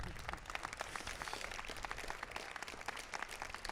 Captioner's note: applause